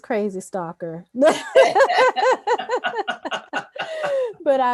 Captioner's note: laughter